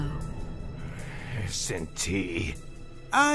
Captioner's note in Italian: con tono icazzato da echidna rabbioso